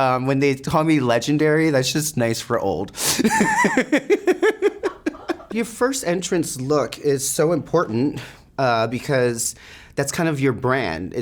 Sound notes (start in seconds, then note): 3.2 Sasha laughing